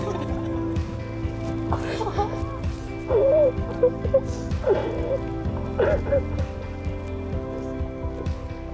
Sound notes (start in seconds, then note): 3.0 crying